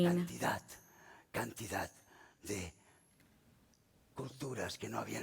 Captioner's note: speaking spanish